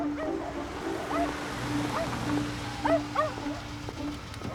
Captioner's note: dog barking in distance